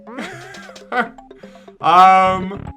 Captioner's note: laughs